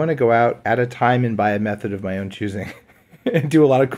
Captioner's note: laughs